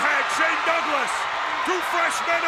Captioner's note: audience cheers